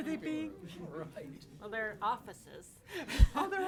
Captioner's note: laughs